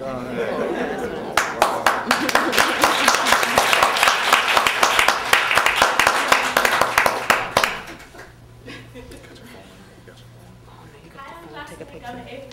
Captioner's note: applause